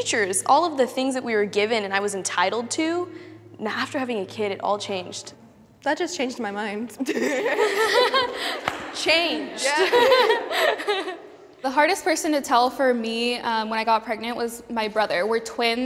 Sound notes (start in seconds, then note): 7.0 everyone laughs; 9.5 laughs